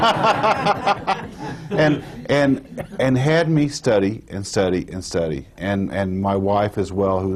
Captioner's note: laughter